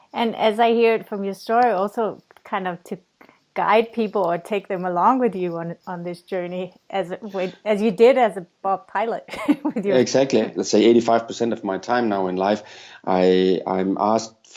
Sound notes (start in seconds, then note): 9.3 chuckles